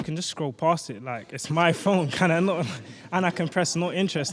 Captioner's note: laughs